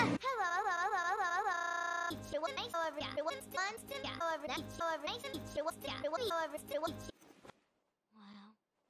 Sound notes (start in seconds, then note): 1.6 Dale stutters when introducing himself